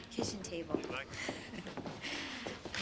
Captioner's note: chuckles